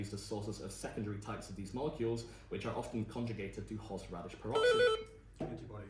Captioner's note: buzz